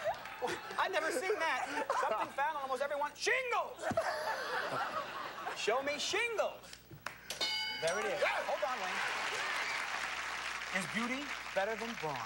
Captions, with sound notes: I'VE NEVER SEEN THAT. SOMETHING FOUND ON ALMOST EVERYONE'S--SHINGLES! [laughter] SHOW ME SHINGLES. THERE IT IS. [applause] IS BEAUTY BETTER THAN BRAWN?